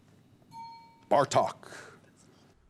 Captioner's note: bell ding